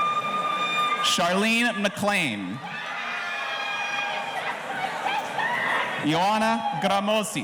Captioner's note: audience cheering